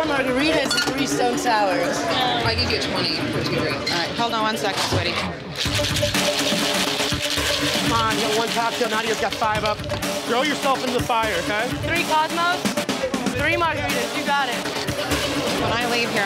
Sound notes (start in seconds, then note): 5.5 ice shaking; 15.3 dramatic music